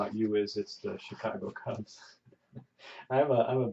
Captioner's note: chuckles